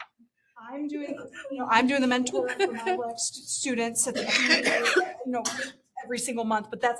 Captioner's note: laughter